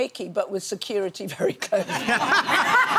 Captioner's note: laughing; audience laughs